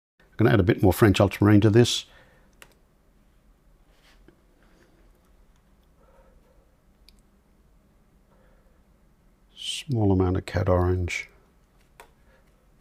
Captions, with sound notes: I'm going to add a bit more French ultramarine to this. [silence] Small amount of cat orange.